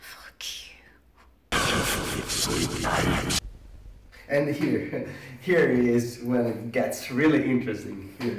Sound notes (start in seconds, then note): 1.7 distorted voice in foreign language; 5.0 chuckles